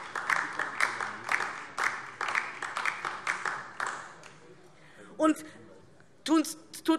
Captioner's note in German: Beifall DIE LINKE